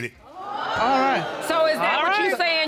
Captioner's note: audience gasping